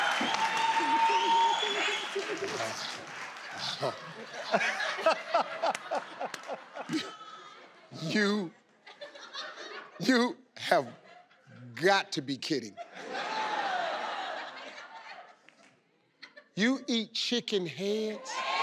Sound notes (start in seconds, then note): 12.6 crowd laughs